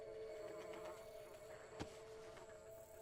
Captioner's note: fly buzzing